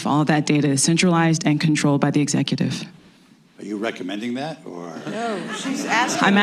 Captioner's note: laughter